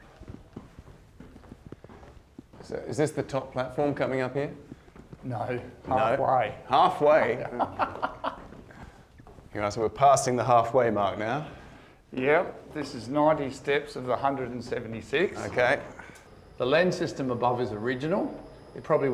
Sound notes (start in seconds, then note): 7.3 laughter